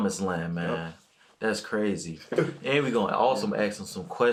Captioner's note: chuckles